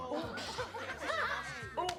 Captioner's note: laughing